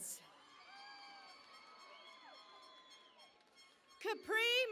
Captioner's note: cheering and Applause